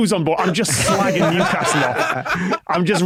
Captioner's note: guests laugh uproariously